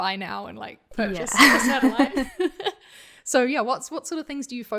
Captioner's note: laughing